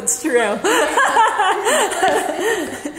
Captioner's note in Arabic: أمي تضحك